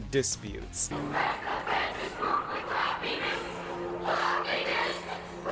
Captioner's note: happy Crowd